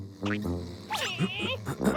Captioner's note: caterpillar noises; clears throat